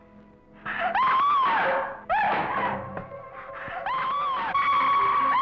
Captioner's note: Barbara screaming